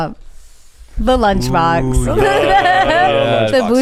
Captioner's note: laughs